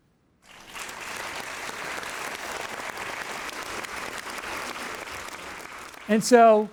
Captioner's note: applause